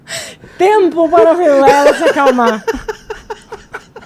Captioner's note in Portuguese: risadas